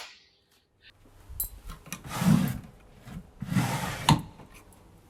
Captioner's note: drawers opening